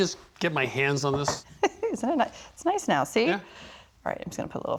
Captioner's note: laughing